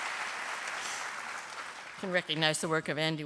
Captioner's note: applause